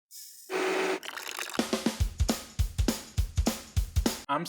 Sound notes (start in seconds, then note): 0.5 blender whirring; 0.9 liquid trickling; 1.6 upbeat rock music